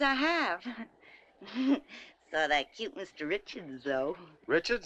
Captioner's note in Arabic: يضحك